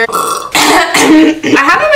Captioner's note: burp; coughing and clearing throat